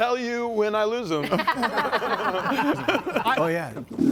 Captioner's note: laughs